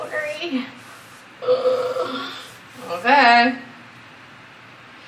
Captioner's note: groans